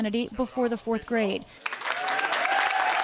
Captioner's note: cheering and applause